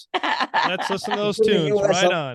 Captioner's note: laughing